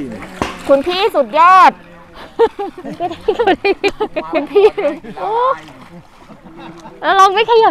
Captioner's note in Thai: เสียงหัวเราะ